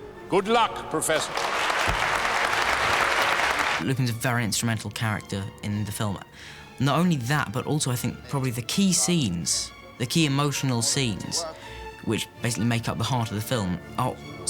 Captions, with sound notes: Good luck, professor. [APPLAUDING] Lupin's a very instrumental character in the film. Not only that... ...but also I think probably the key scenes, the key emotional scenes... ...which basically make up the heart of the film...